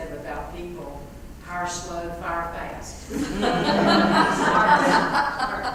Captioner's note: laugh